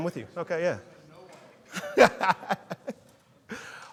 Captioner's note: laughs